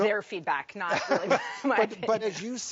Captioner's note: laughs